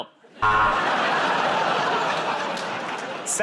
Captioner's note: buzzer